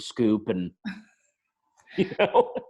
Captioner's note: laughs